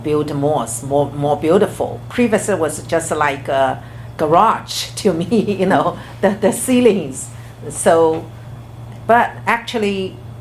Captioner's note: laughs